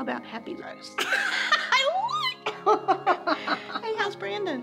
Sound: laughs

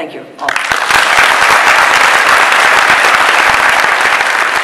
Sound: audience bursts into applause

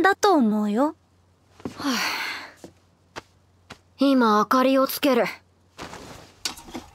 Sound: sigh

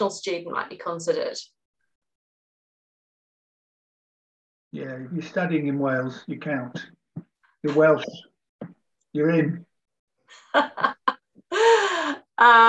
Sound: laughs

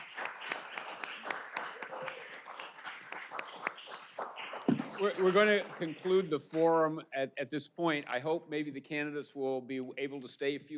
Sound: applause

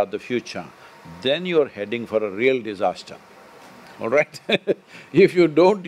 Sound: laughs

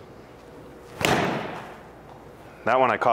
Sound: ball thuds

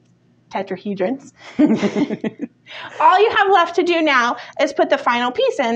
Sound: chuckles

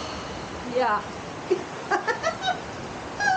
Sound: laughing

